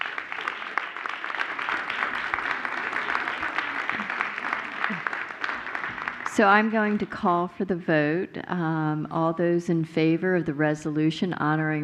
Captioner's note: applause